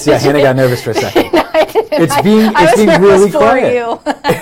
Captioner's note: laughs